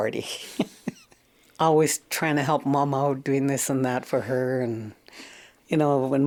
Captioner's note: laughs